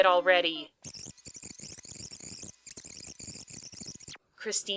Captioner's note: tape fast-forwarding